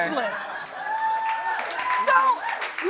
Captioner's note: crowd cheering